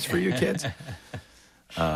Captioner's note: laughs